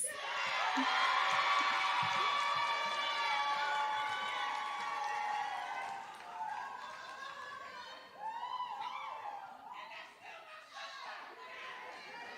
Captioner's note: applause